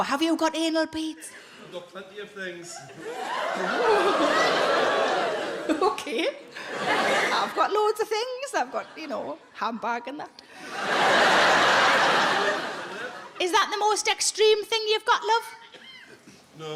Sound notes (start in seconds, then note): 2.8 audience giggles; 10.6 audience laughs